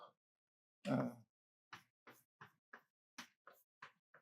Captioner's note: chalk taps